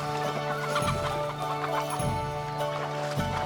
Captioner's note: squawking